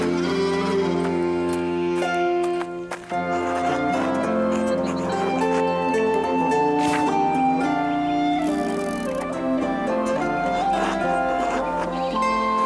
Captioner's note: sheep bleating